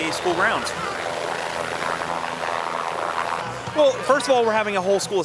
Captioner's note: chopper blades whirring